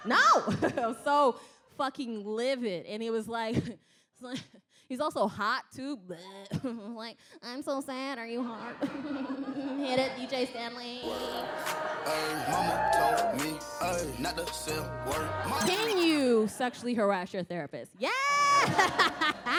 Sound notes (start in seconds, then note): 9.4 giggles